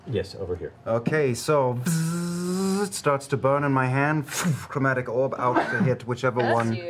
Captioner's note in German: Zischen